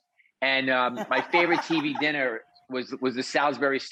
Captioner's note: Rachael laughs